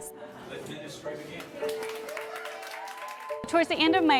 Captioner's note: applauding